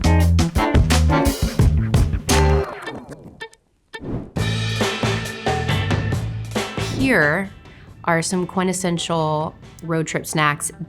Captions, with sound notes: [air whooshing] [lively jazz music] Here are some quintessential road trip snacks